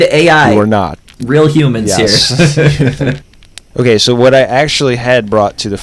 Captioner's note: laughter